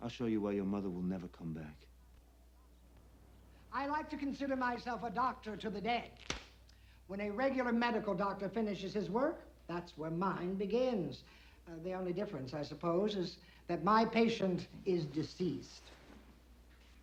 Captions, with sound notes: I'll show you why your mother will never come back. - I like to consider myself a doctor to the dead. (glove snaps) When a regular medical doctor finishes his work, that's where mine begins. Ah, the only difference, I suppose, is that my patient is deceased.